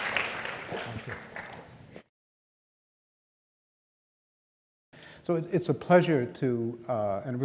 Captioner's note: applause